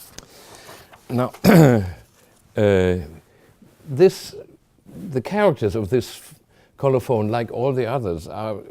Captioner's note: clears throat